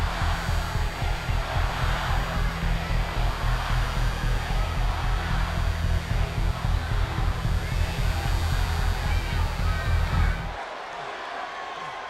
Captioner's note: applause